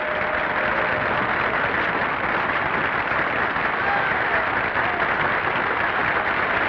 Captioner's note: audience applauding; audience cheering